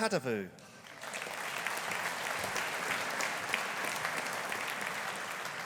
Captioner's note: audience applauding